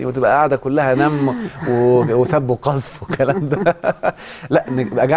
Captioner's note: laughs!